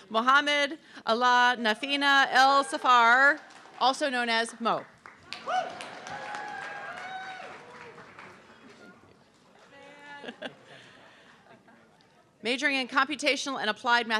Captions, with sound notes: Mohamed Allah Nathina El Safar, also known as Mo. (audience clapping) Majoring in Computational and Applied